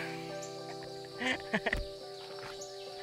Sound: laughing

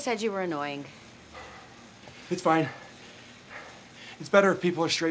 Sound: breathing heavily

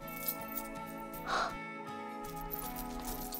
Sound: gasps

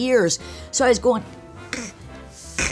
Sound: blows snorts

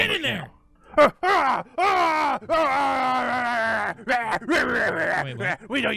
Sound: Unicorn growls and yells at Tina

